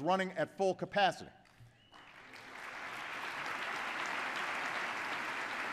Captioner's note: applause